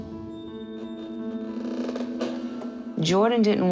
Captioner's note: floor creaking